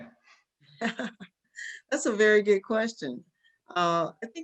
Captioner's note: laugh